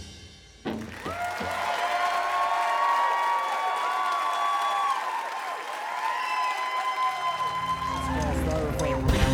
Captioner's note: applause